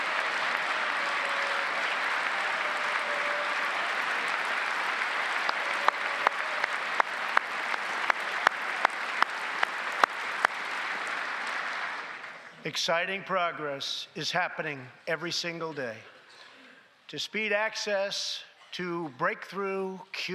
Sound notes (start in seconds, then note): 1.9 cheers and applause; 10.5 applause